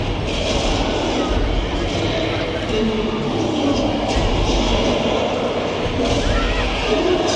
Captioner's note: beasts roar; bodies thud